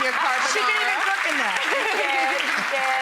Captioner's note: audience applauds